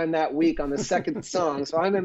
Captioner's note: laughter